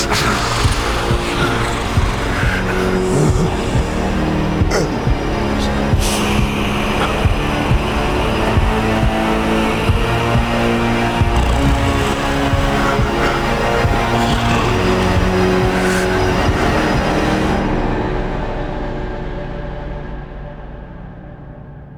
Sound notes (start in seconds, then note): 4.7 Reed gasps for air; 4.7 tense gripping music; 6.2 creature snarling; 6.2 tense gripping music